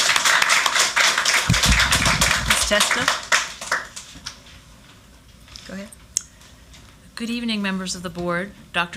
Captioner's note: applause